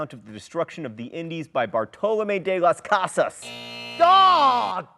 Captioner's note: buzzer buzzing